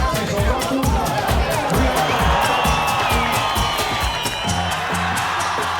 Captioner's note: audience cheering